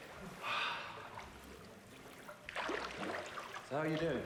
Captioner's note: Nick sighs